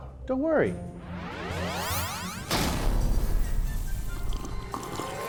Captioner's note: thunder strikes